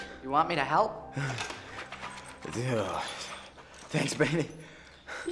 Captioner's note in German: Giles seufzt